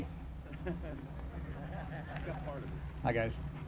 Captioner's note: laughter